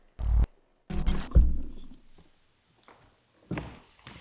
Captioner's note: static crackling